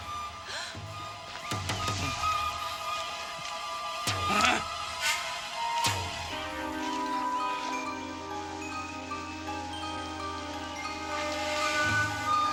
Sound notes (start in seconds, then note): 4.3 man grunting